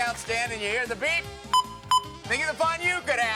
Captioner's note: beeps